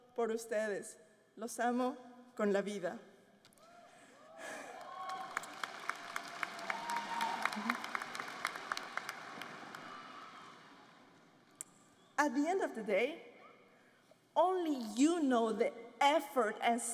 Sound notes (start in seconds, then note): 0.0 applause; 1.8 speaking foreign language; 8.8 applause